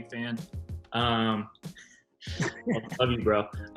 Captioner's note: laughs